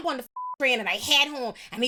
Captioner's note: beep